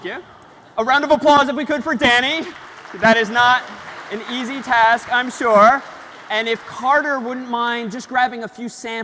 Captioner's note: ปรบมือ